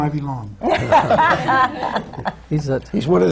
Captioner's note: laughs